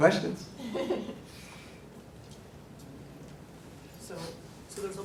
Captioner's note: chuckling